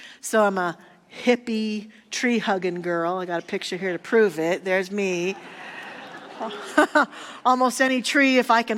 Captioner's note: audience laughter